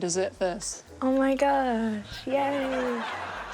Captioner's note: laughter